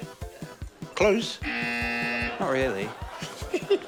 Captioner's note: buzz!; laughs